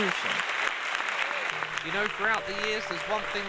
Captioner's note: applause